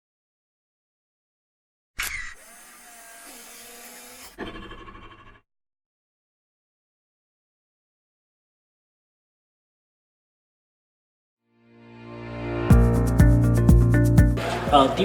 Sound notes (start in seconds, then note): 2.0 camera lens clicking; 11.8 upbeat music